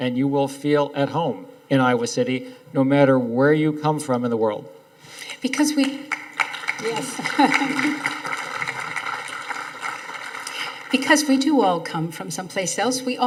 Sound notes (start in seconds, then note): 6.1 audience applauding